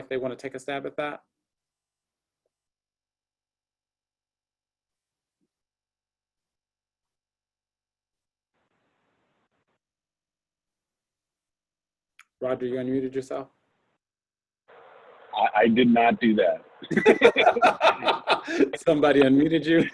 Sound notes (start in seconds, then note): 16.8 both laugh